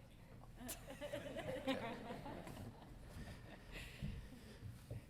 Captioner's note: audience laughing